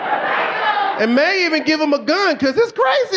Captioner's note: audience laughing